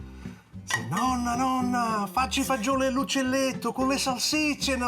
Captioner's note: speaks Italian